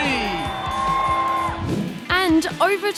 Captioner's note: cheering